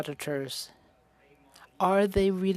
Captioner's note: speaking French